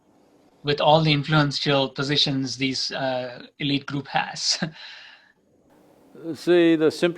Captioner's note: laughs